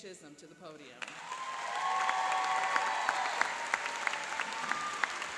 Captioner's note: applauding and cheering